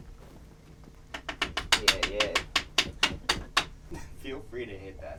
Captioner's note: tapping brush